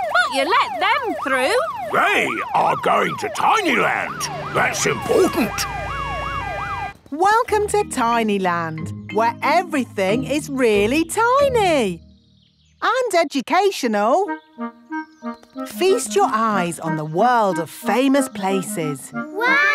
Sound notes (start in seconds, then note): 5.9 sirens wailing